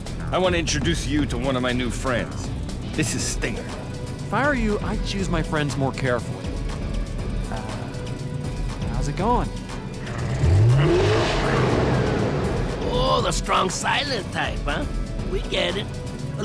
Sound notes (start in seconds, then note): 9.8 revving